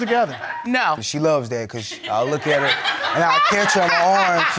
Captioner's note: audience laughing